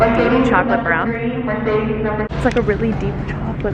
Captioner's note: loud public announcement